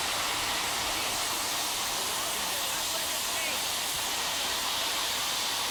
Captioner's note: train rolling in